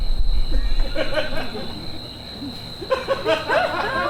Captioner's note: audience laughs